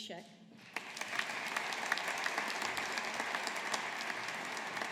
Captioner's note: audience applauding